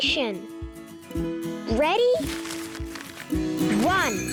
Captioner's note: pages rustling